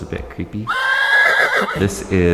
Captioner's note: horse neighing